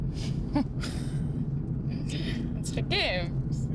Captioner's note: laughing; speaking foreign language